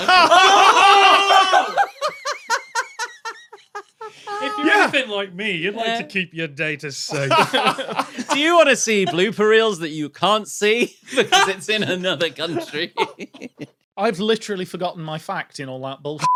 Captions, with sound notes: (group laughs hysterically) Yeah! "If you're anything like me, you'd like to keep your data safe." (group laughing) "Do you wanna see blooper reels that you can't see..." Hah! "...because it's in another country?" I've literally forgotten my fact in all that bulls***.